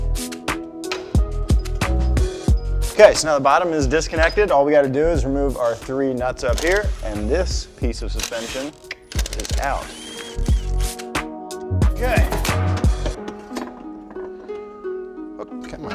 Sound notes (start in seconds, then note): 0.1 upbeat music; 10.3 impact gun whirring; 11.5 upbeat music; 13.2 soft music